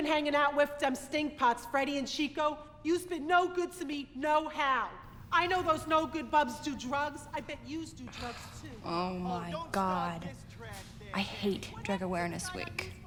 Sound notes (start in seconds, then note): none